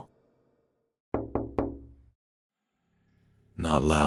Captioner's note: knock knock knock